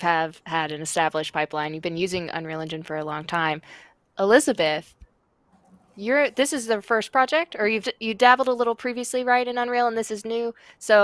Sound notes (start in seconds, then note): none